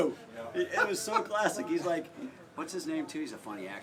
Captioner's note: laugh